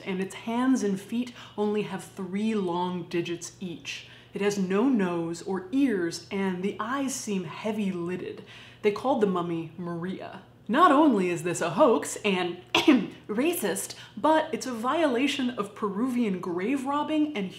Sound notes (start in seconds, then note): 12.7 coughs